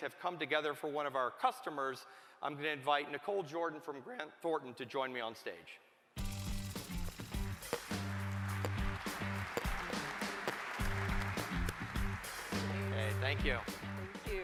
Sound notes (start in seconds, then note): 5.6 applause